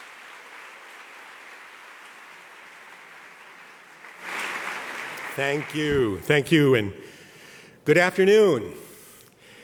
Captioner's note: applause